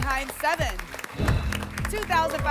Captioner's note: whoosh